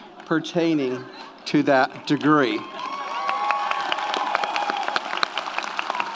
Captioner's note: audience applauds